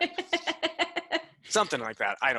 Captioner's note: laughing